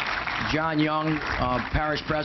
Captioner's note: applause